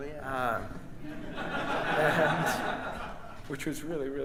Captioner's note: audience and band laughs